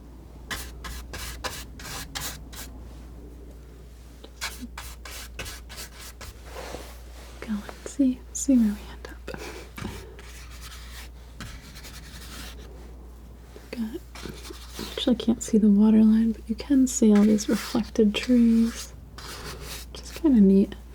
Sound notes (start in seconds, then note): 0.3 scratching